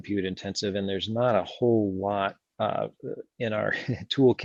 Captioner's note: laughs